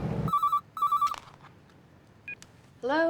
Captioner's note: phone ringing